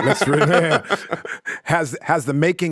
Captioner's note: laugh